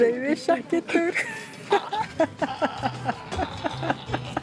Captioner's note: laughs